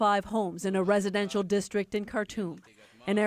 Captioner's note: speaking in alternate language